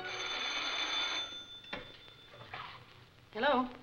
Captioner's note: phone ringing